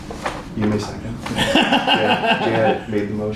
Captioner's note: laughter